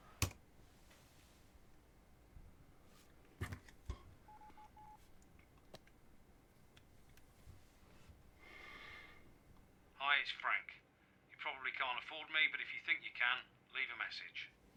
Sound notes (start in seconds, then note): 0.2 key clicking; 4.2 phone beeping